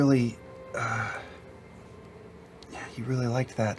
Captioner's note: sighs